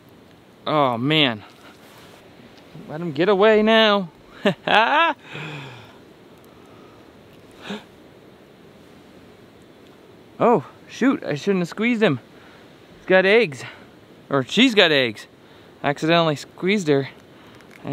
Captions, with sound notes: Aw man. Don't let him get away now. (laughs) (gasps) Oh, shoot! I shouldn't have squeezed him. He's got eggs. Or, she's got eggs! Accidentally squeezed her,